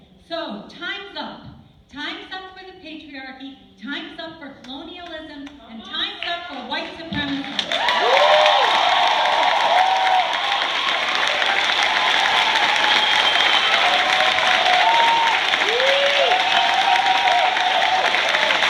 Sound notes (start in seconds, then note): 7.3 ebullient cheers, applause